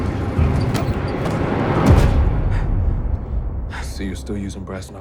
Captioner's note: fighters grunting